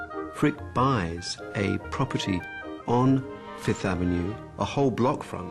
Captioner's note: gentle orchestral music; voiceover